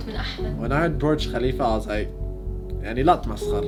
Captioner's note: speaks in English